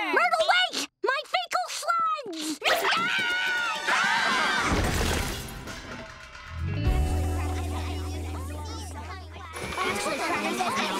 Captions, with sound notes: Myrtle, wait! My fecal slides! [screaming] [screaming] [all chatting]